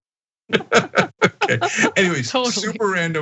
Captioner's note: laugh